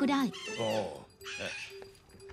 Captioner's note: parrot squawking